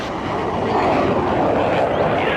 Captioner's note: plane passing